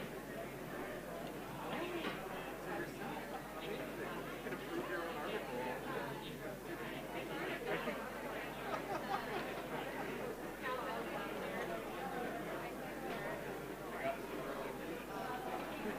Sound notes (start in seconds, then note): 3.8 background chatter